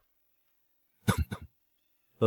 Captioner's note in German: Hust, hust